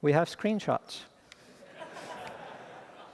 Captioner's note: laughter